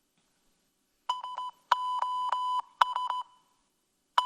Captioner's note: tone beeping